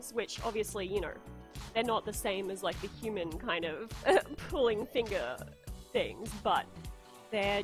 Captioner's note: laughs